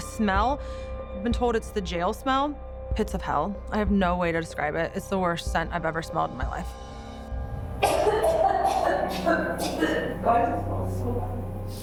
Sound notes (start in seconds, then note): 7.8 coughs